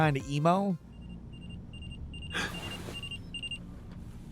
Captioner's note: alarm beeping